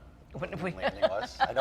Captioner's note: laughing